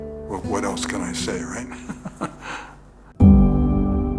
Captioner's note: laughs